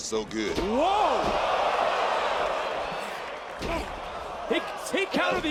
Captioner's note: audience cheering